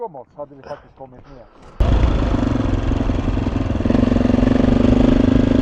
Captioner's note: engine noise